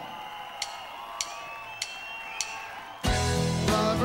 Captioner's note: audience cheering; drumsticks tapping